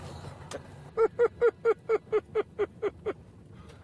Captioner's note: giggles